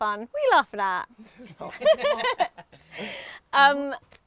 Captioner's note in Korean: 웃음